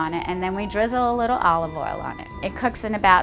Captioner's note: none